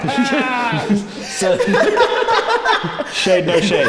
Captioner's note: laughs